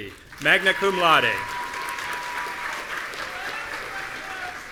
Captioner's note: audience cheering